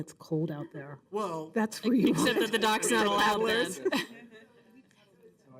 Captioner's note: laughter